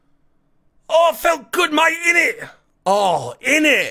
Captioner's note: foreign accent